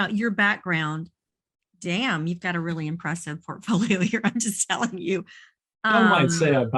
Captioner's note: chuckles